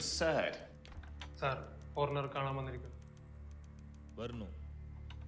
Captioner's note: speaking foreign language